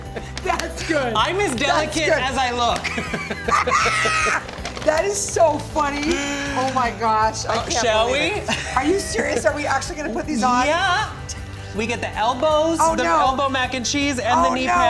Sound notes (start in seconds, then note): 2.8 both laughing